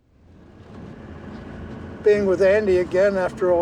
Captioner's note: engine rumbling